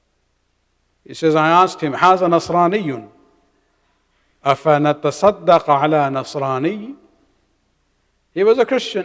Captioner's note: arabic